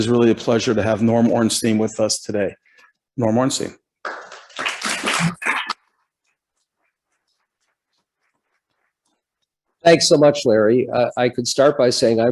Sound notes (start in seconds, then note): 4.0 applause